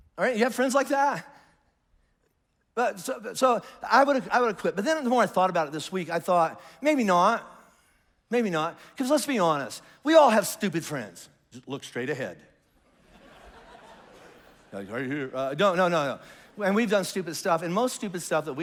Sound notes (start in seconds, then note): 12.8 congregation laughs